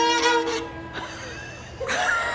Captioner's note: cracks